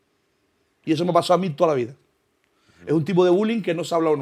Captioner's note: none